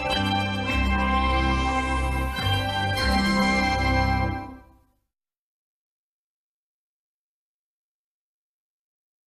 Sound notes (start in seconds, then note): 4.8 silence